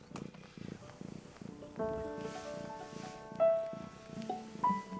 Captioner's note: heavy purring